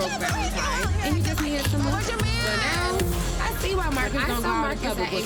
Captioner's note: overlapping chatter